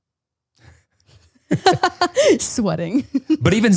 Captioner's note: everyone laughs